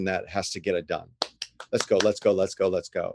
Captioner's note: claps